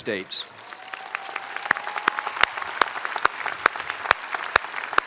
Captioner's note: spectators applauding